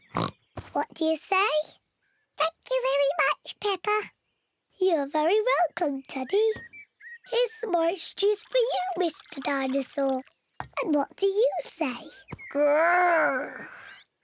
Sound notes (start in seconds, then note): 0.1 oinks; 2.1 in squeaky voice; 4.6 in normal voice